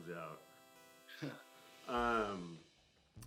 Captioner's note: laughs